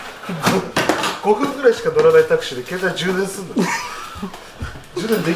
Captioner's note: laugh